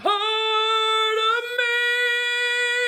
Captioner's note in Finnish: huuto